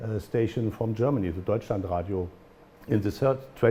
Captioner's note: german